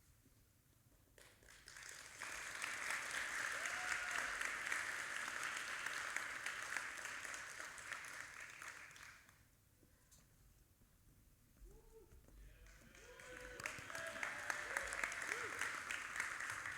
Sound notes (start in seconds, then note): 1.5 audience applauding; 12.5 audience applauding